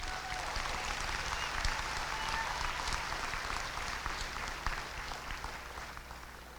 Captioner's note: applause and cheering